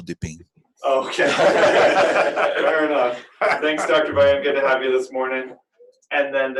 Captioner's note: laughter